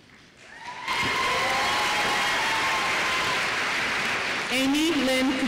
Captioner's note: applause